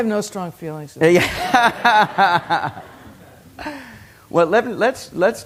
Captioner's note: laughter